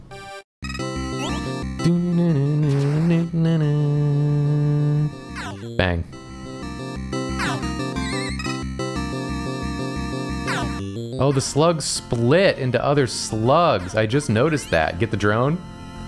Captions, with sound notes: [humming] Bang. Oh, the slugs split into other slugs. I just noticed that. Get the drone.